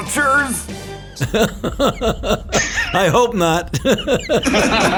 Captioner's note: laughs